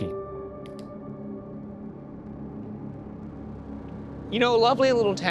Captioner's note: flashlight clicks